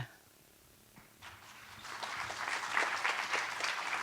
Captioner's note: applause